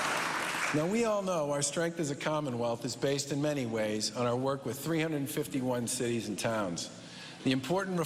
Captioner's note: cheers and applause